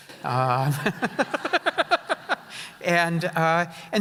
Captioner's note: laughing